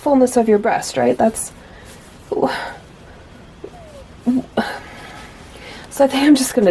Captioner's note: audible confusion